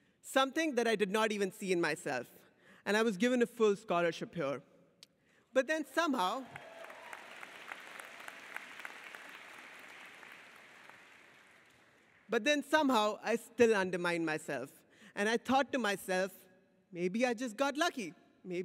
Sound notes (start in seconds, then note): 6.4 audience applauds